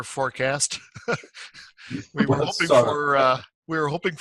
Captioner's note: both laugh